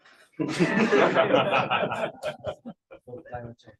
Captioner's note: laughter